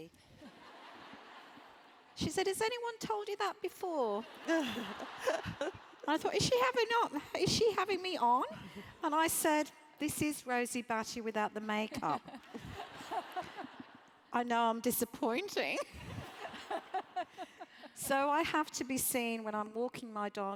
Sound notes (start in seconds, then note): 0.5 laugh; 4.4 laugh; 11.9 laugh; 15.9 laugh